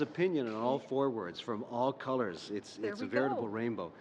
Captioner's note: laughter